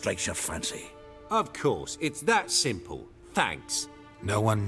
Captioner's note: sarcastically